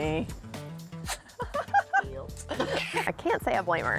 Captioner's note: laughs